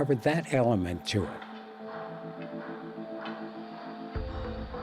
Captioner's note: clanking